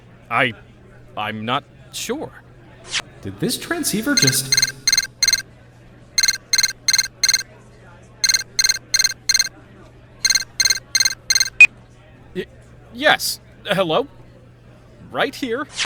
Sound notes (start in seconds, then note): 4.3 transceiver beeping; 10.2 beep!